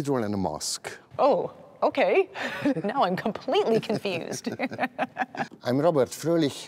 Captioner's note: laughs